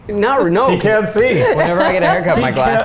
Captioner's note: laughing